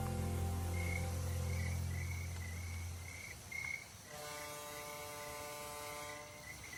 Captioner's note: frog sounds, tug ship horn